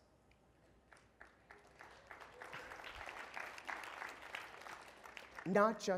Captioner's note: applause